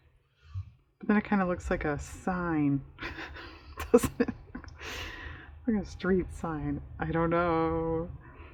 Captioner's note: laughs